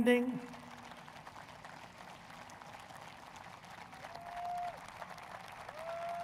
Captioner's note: applause